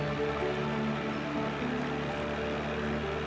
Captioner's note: bird chirping